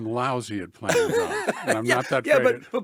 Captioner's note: laughs